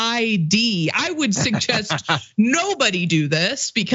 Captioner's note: laugh